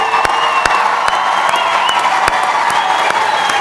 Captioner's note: applause